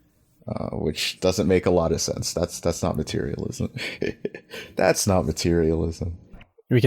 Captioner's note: laughs